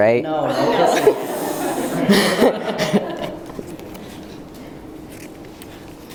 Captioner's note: laughing